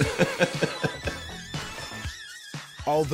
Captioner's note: laughing